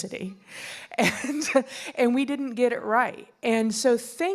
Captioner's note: laughing